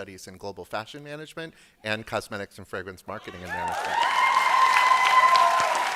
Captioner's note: applause